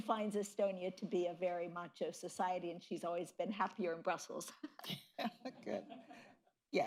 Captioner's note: laughter